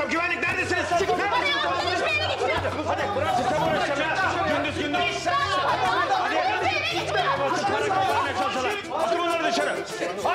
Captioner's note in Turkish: Bağrışma sesleri